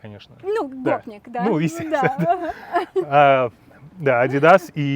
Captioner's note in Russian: оба смеются